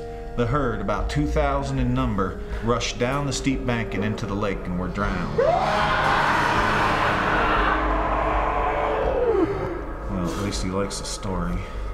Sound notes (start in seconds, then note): 5.3 shrieking